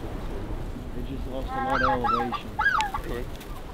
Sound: goose calling

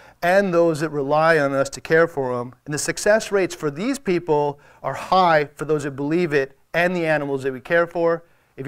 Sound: none

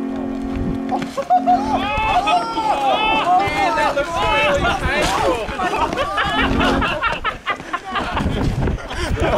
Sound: laughs

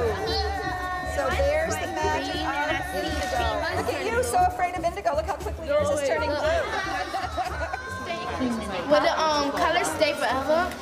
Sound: classroom noises

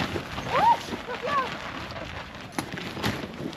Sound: gale

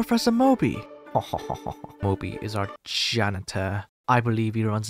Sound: chuckle

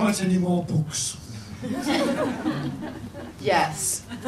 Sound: people laugh

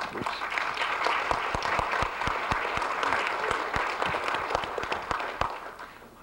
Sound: applause

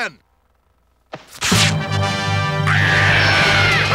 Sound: screeches

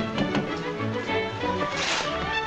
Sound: whimsical music; knocking

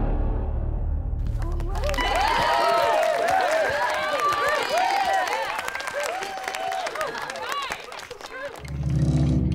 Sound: applause, cheering

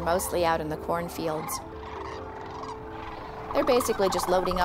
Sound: crane song

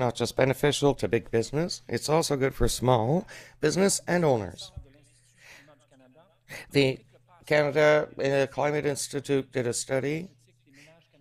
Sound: speaking French

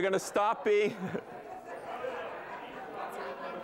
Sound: chatter

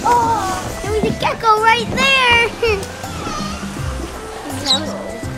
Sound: laughs

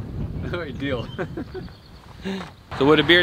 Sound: laughing

